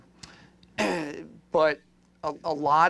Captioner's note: clears throat